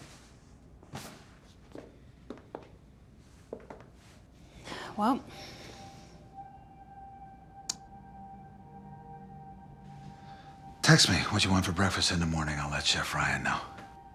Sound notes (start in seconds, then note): 3.4 footsteps tapping; 6.6 quiet dramatic music